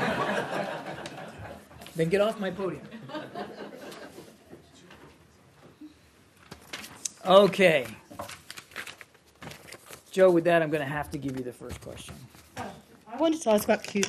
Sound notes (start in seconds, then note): 0.0 laughter; 5.7 laughter